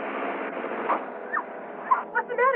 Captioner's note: bang